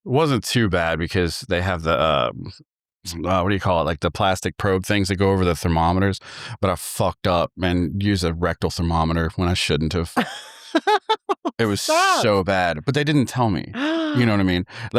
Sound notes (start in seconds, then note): 10.0 laughing